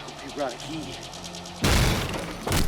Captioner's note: door crashes